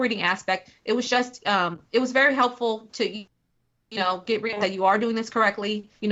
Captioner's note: technical interference